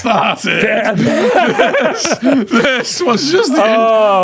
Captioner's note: laughing